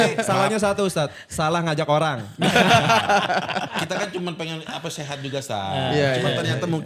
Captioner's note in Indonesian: tertawa